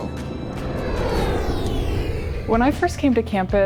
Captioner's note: airplane soaring